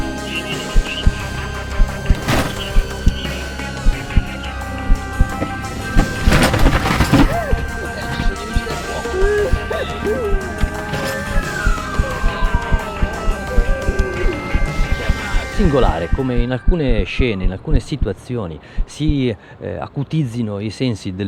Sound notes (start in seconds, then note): 2.2 sound of wreckage, ambulance siren; 6.0 noise of wreckage, crying woman; 8.0 soft voices Rescuers; 9.8 sound of the siren; 11.3 accelerated heartbeat